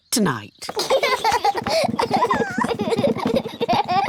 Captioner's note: children laugh